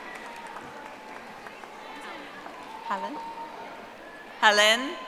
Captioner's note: audience applauding